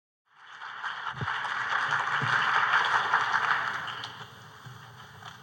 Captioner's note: applause